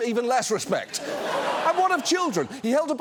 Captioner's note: audience laughs